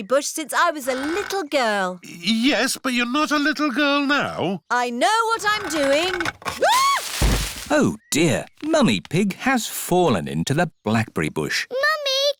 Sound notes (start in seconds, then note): 6.0 thuds; 6.6 screams